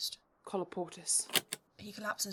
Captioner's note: lock clicks